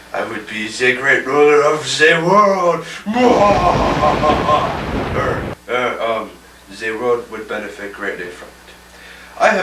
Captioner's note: ominous laugh